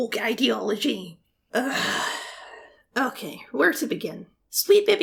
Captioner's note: heavy sigh